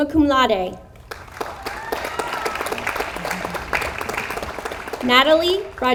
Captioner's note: audience applauds